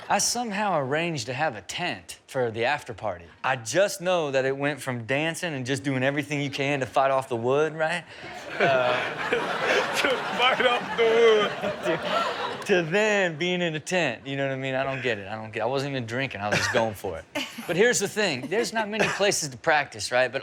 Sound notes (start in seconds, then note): 8.2 all laughing; 11.8 laughing